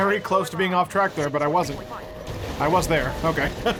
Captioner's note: chuckles